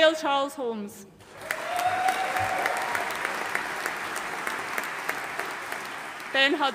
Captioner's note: audience cheering and applauding